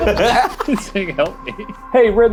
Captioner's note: laughing